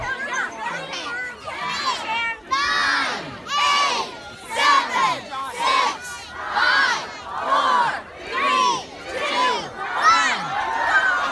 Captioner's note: kids counting down